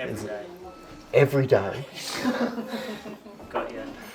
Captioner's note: laughs